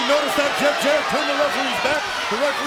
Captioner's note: crowd cheering